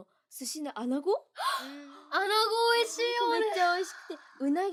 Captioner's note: gasp